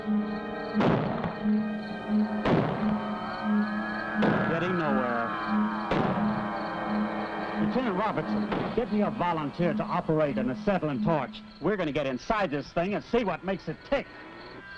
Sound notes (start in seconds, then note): 0.7 gun shots